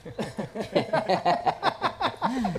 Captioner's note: laughter